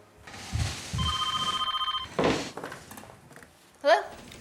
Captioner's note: phone rings